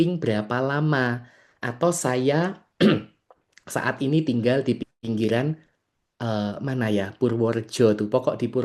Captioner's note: berdehem